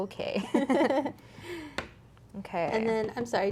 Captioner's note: both laughing